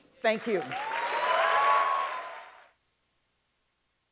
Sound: applause

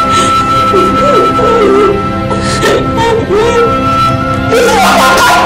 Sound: crying continues

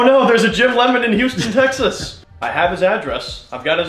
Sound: laughs

